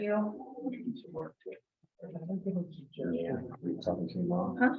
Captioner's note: members chattering